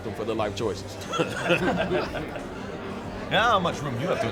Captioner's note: laughing